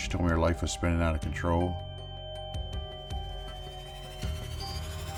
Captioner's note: high-pitched ringing